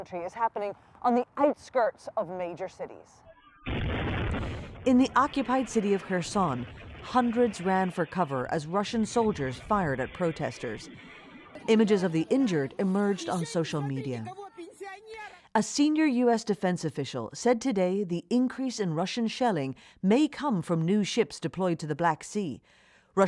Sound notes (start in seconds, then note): 3.7 gun fires